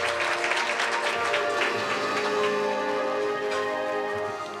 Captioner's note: applause